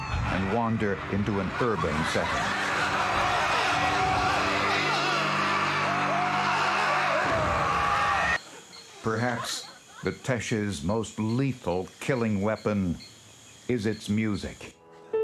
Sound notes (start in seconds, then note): 3.2 people screaming; 6.5 Teshes shouting